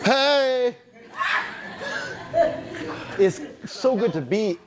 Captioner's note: audience laughing